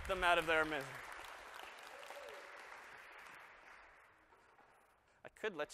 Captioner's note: applause